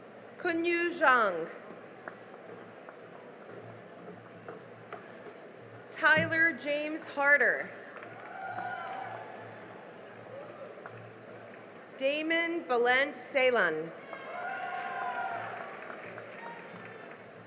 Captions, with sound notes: Kunyu Zhang [APPLAUSE] Tyler James Harder [CHEERING AND APPLAUSE] Damon Bulent Ceylan [CHEERING AND APPLAUSE]